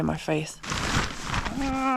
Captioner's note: rustling